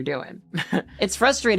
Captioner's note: chuckling